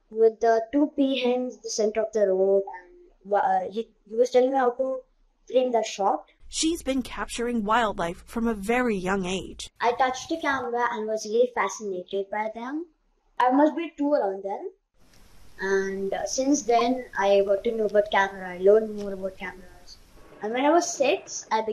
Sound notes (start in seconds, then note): 6.9 voice-over